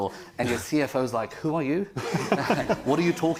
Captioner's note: panel laughing